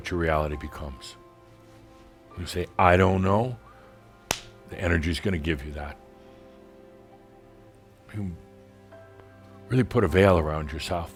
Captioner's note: smack!